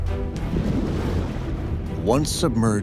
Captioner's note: water burbling